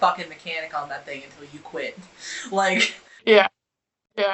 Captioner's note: laughs